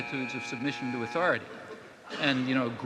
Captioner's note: buzzer buzzing